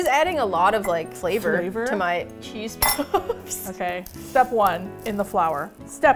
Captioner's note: laughs